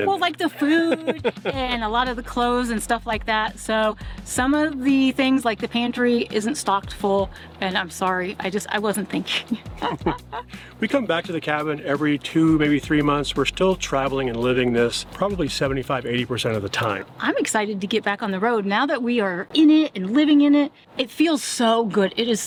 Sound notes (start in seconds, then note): 9.4 laughing